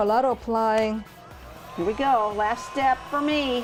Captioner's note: heat gun blowing